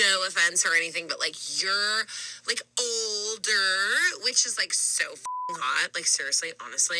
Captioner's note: beep